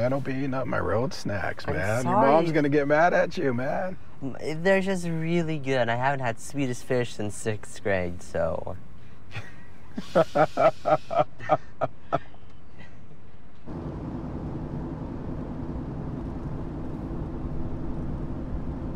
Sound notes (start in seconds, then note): 9.9 laughs; 13.6 car driving